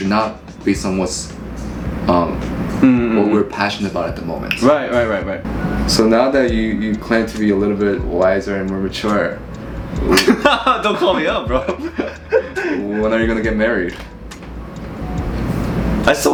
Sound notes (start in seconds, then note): 10.0 laughing